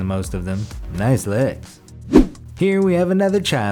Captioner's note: air whooshes